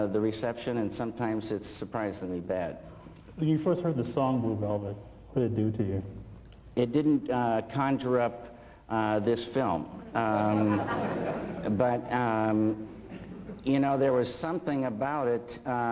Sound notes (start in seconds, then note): 10.2 laughter